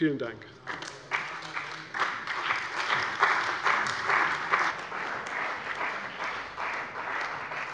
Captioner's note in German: Beifall bei der CDU und dem BÜNDNIS 90/DIE GRÜNEN